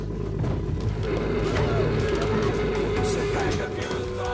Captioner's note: tapecorder whirring